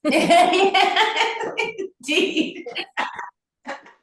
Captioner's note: laughter